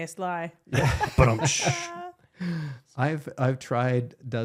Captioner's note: laughing